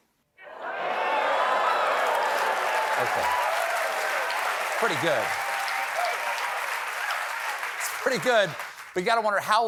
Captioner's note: applause